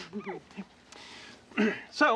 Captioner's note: clears throat